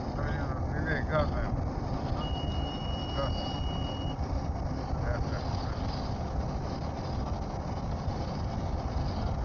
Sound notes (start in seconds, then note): 2.2 sound Of Altitude Alert